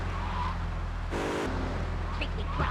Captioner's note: muffled yelling